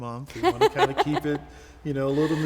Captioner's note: laughing